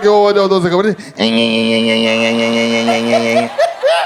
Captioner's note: pedaling sound